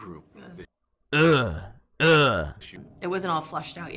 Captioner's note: disgruntled man noises